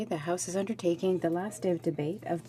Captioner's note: speaking French